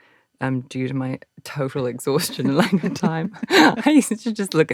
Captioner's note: laughs